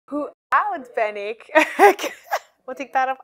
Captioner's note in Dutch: lacht